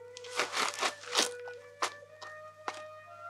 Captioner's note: rustling